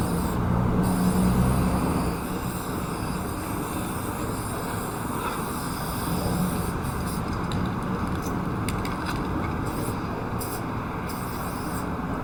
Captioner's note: paint sprays